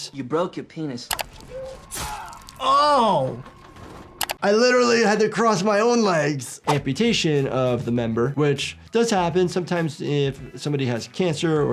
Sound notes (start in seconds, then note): 1.1 computer mouse clicks; 2.0 metal sheathing